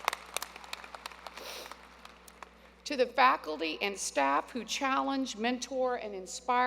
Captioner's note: applause